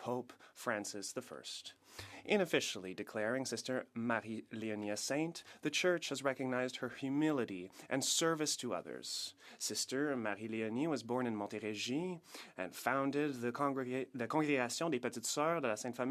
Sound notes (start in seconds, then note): 3.0 speaking French